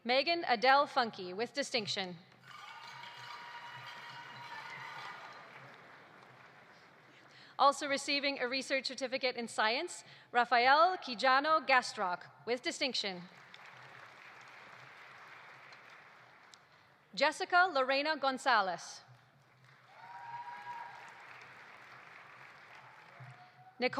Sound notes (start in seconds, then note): 2.4 audience applauding; 2.6 audience cheering; 13.3 audience applauding; 19.4 audience applauding; 19.8 audience cheering